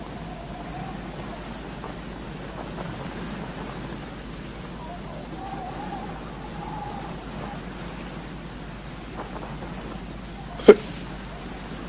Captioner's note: wind Sounds